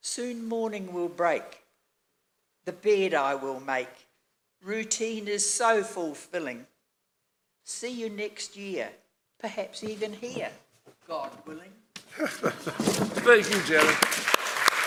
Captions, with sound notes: Soon morning will break, the bed I will make, routine is so fulfilling. See you next year, perhaps even here, God willing. (audience applauds) - Thank you, Janet.